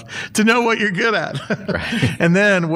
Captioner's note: laughter